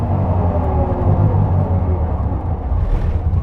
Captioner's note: car purring